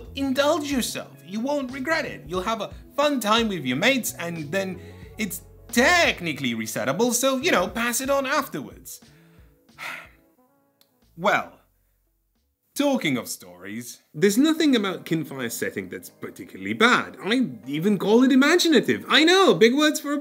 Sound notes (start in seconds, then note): 9.7 sigh